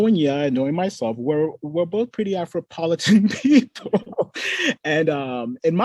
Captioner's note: laughs